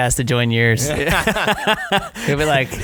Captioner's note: laughing